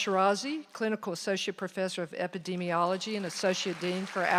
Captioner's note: applause